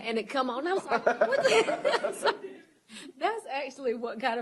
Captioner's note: laughter